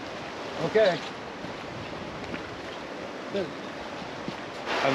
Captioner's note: water flowing